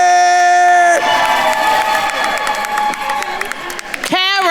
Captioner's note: attendees cheering and applauding